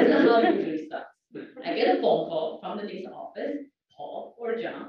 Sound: laugh

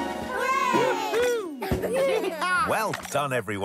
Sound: cheering

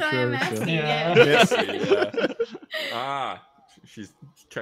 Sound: laughter

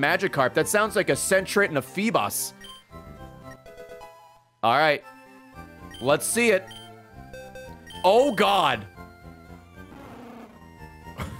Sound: laughs

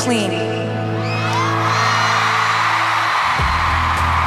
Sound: cheers and applause

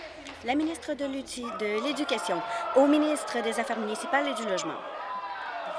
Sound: applause

